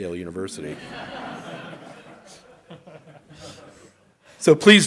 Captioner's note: audience laughs